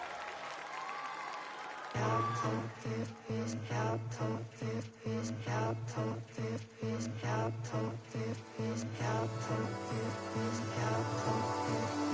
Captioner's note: crowd cheering